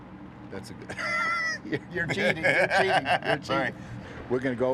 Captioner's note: laughs